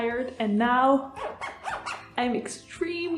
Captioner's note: weird and awkward zipper sounds